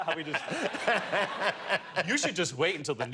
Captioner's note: laughter